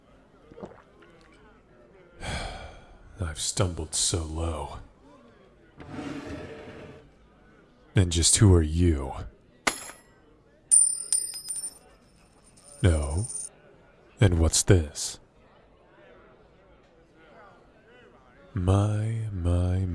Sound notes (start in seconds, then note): 2.2 sighs; 5.8 chair Creaking; 10.7 gold coins, hitting against each other; 13.7 small thud, dropping pouch on counter